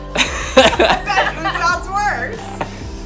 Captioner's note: laughing